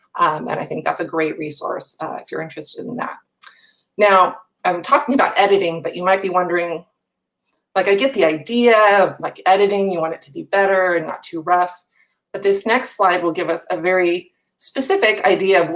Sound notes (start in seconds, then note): none